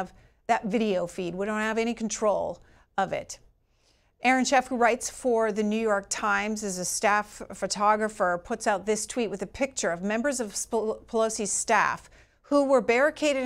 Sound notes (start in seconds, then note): none